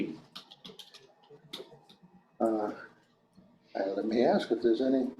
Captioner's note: keyboard clacking